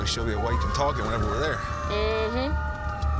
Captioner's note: sirens